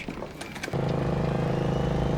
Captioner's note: engine purring